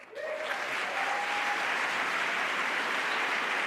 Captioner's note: applause